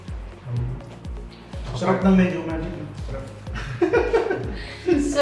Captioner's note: laugh